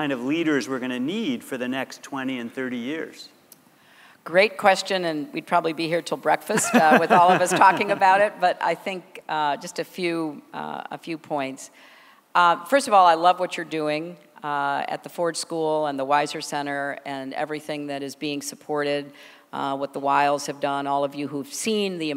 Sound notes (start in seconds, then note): 6.5 laughter